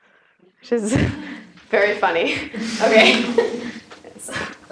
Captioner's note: laugh